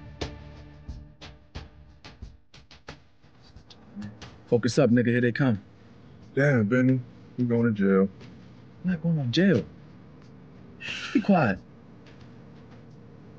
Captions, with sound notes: Good evening, and how may I help you? - I'm Michael Walters. I believe I was expected. Are you Jamari Jefferson? No, I'm her assistant. She'll be joining us shortly. [footsteps]